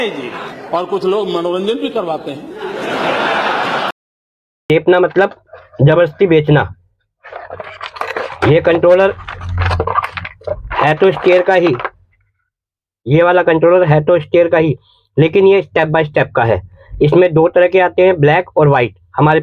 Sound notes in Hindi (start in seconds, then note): 2.4 हंसी